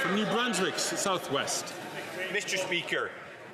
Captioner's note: some Applause